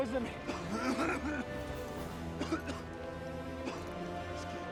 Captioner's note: uncontrollable coughing